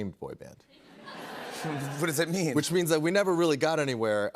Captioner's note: laughter